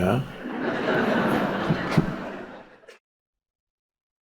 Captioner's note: audience laughs